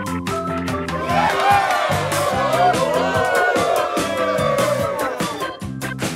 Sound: cheers

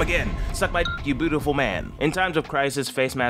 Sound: beep

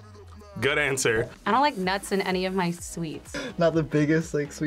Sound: none

